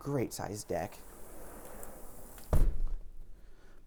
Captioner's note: door thuds